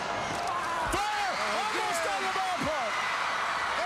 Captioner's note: crowd cheering